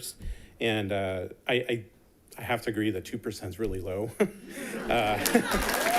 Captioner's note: people giggles; chuckles